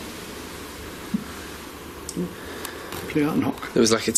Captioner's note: soft thumping